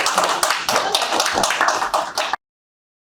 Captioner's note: applause